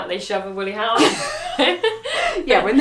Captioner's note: both laughing